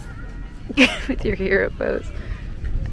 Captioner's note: laughs